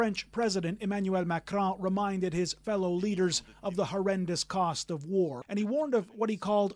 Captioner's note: speaking French